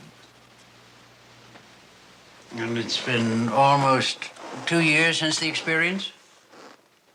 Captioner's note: none